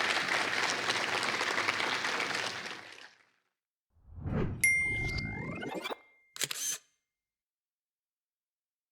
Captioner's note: applause